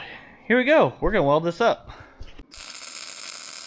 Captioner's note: machinery whirring